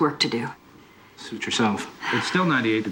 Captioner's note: sighs